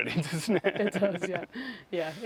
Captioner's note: both laugh